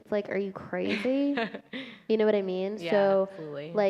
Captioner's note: laughter